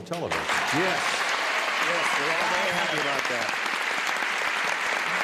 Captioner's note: cheers and applause